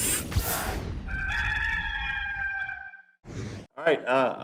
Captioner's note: rooster crowing